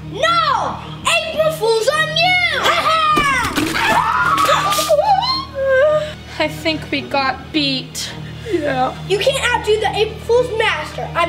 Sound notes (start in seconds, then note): 2.6 both screaming